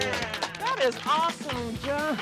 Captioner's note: all applauding